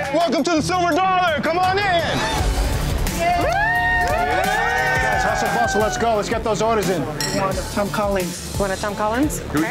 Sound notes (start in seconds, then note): 3.1 customers cheering